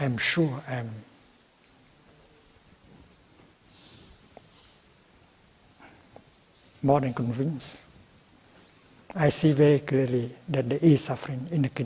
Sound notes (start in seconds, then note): none